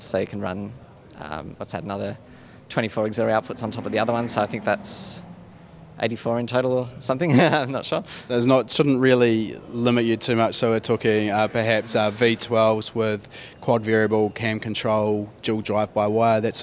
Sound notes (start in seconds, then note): 7.2 laughs